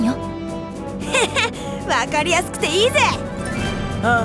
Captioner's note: chuckle